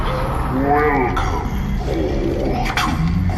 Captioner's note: shuts door